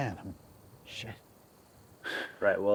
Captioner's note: sighs